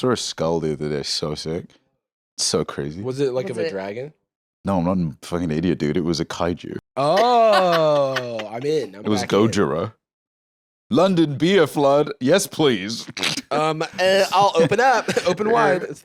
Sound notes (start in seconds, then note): 13.0 laughs